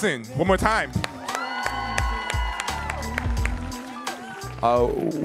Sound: audience cheering

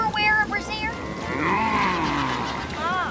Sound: moaning

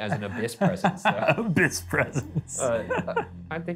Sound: laughing

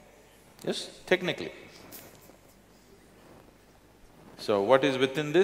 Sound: laughs

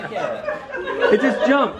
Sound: laughing

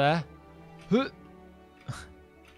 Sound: sound of effort

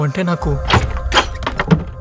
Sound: door opens

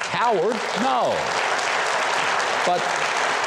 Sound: audience applauding

